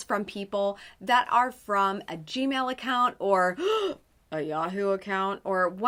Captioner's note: gasps